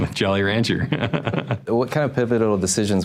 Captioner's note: laughs